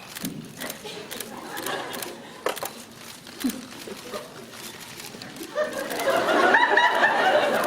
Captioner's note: muted whispering